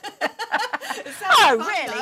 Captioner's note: laughter